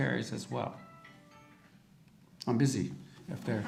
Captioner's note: audience phone rings